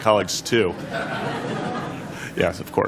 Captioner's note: laughter